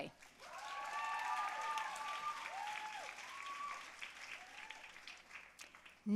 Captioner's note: audience cheering and applauding